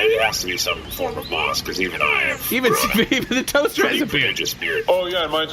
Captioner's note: laughing